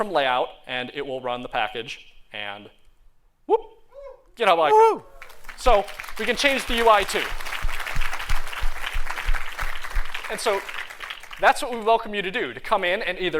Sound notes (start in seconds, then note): 5.2 applause